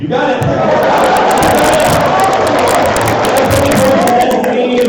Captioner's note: applause